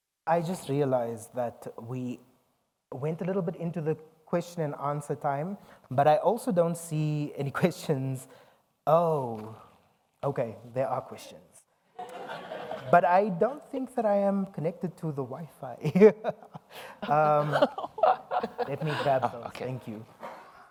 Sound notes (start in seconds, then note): 12.0 audience laughs; 17.0 all laughs